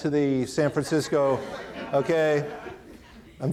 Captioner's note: audience laughing